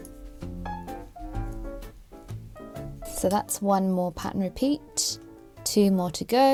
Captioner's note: needles clicking